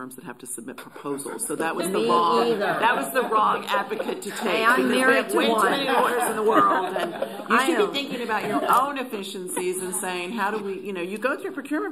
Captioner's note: laughter